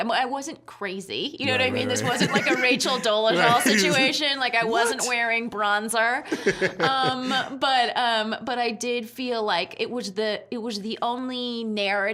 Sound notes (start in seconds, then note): 6.3 laughing